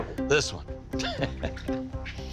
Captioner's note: chuckles